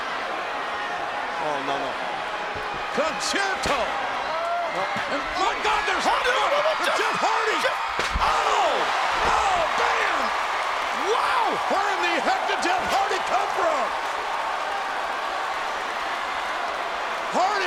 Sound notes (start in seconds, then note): 2.8 audience chattering; 8.0 chair thuds; 15.3 audience cheering and clapping